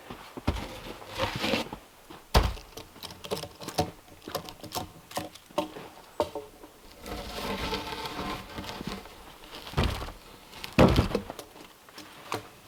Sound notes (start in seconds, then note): 2.1 log thumps; 7.2 log scraping; 9.9 log thumping